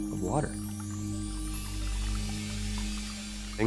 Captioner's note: water trickling